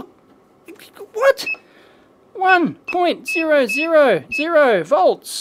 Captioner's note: beep